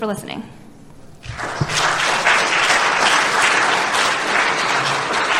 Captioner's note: applause